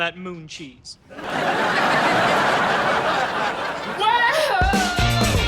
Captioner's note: audience laughs